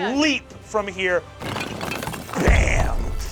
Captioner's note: sound of toppling rubble